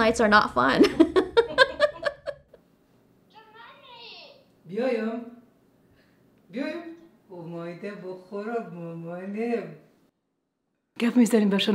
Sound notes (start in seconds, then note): 0.8 chuckles; 3.2 speaking in foreign language